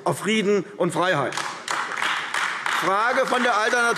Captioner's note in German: Beifall AfD